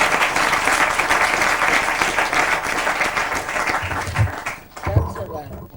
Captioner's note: clapping